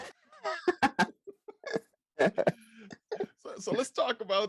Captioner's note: laughs